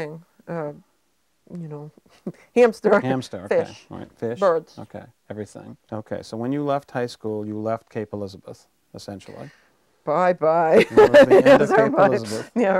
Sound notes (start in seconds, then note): 10.7 chuckling